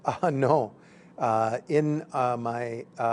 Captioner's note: chuckle